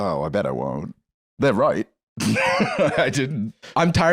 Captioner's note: laughs